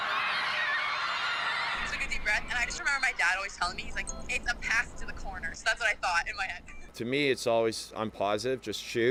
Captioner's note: cheers and applause